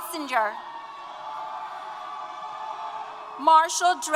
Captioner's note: applause & Cheers